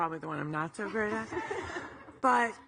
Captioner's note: audience laughing